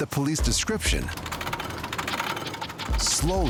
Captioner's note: metal scraping